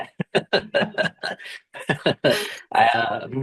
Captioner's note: laughter